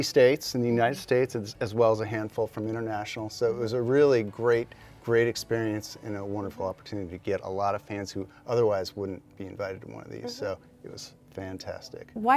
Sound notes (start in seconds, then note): none